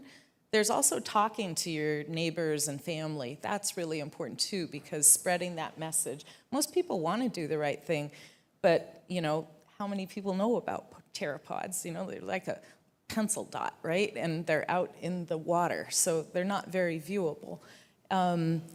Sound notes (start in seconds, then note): none